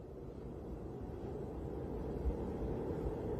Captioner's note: wind howling